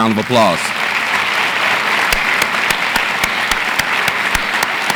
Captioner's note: audience applauds